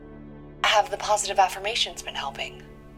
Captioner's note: on phone